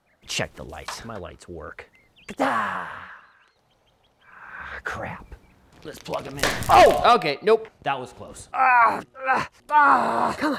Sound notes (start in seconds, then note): 2.3 exclaims; 8.5 grunts